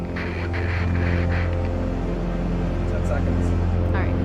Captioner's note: dark synth music continues; distorted radio chatter